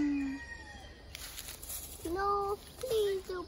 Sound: rooster crows, hen scratching

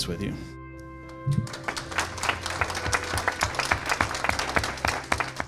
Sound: audience clapping

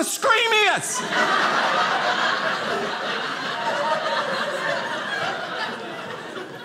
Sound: audience laughing

